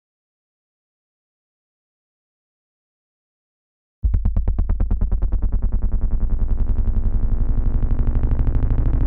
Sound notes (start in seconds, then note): 4.1 drone sfx